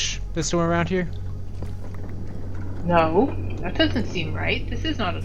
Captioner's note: stompy